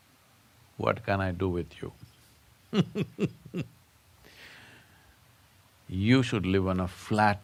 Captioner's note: laughs